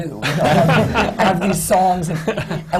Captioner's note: laughter